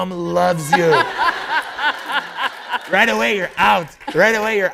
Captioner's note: laughter